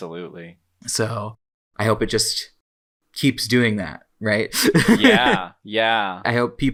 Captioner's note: laughs